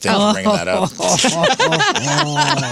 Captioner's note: laughing